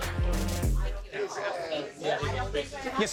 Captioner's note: electronic music; patrons chatting